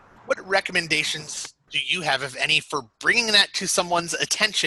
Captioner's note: none